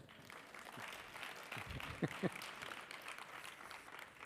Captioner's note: audience applauding